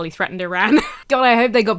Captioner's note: wheezes